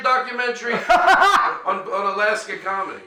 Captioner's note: laughing